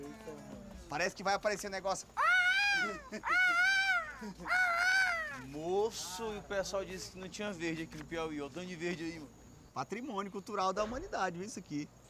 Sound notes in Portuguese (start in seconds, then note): 2.1 grasnando